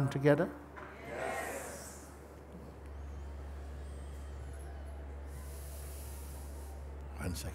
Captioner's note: Stimmen im Publikum